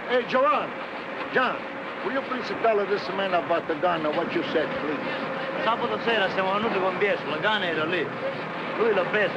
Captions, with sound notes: John, will you please tell this man about the gun, what you said? Please? [non-english speech].